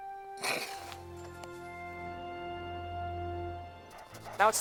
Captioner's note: both chuckle